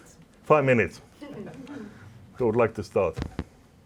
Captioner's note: laughter